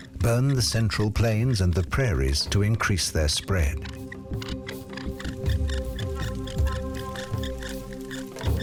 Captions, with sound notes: burn the Central Plains and the prairies to increase their spread. [fire bow squeaking]